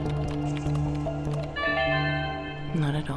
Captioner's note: chime